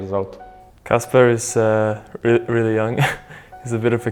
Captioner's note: laughs